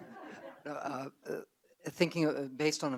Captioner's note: audience laugh